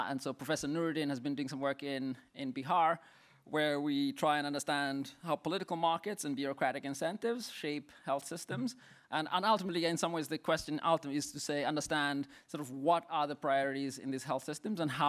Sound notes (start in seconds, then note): none